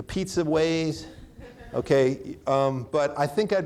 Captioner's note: audience laughing